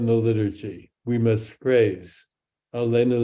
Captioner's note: speaks in Hebrew